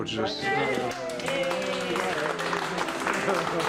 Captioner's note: all cheering and applauding